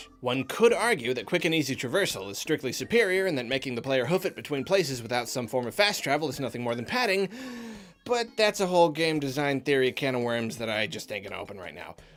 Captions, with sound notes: One could argue that quick and easy traversal is strictly superior and that making the player hoof it between places without some form of fast travel is nothing more than padding, [inhales deeply] but that's a whole game design theory can of worms that I just ain't gonna open right now.